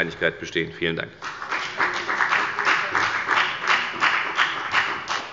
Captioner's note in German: Beifall bei der FDP